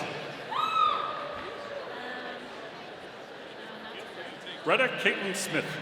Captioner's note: audience cheering